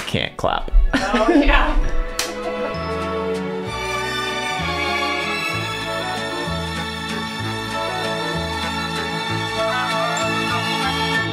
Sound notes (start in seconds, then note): 2.1 Charlie clapping; 3.1 gentle jazz music